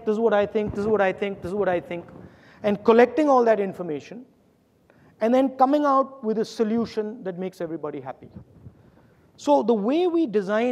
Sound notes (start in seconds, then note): none